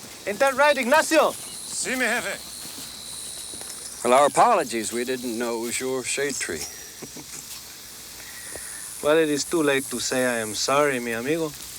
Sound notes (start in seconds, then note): 1.7 Ignacio speaks Spanish; 6.6 Tors chuckles